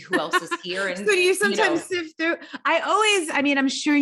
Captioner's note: laughs